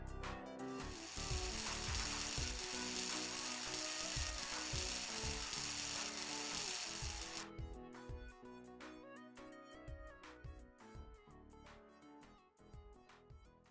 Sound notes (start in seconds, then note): 0.8 welding noise